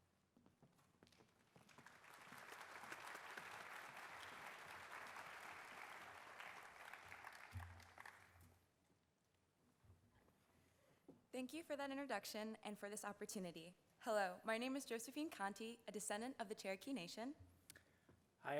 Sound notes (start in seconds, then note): 1.6 audience applauding